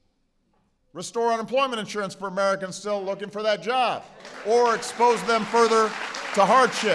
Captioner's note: applause